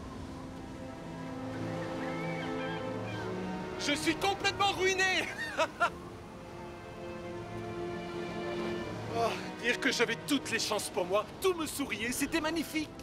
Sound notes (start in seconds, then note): 5.2 laughs